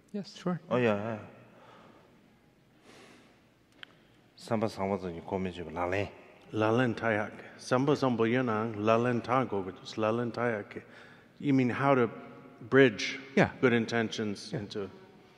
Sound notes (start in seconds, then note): 4.6 speaking in foreign language